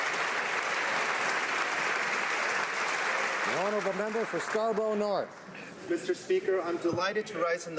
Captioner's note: applause